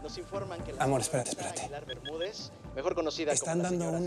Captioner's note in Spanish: bip al subir el volumen